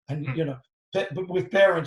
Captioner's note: man in black polo laughs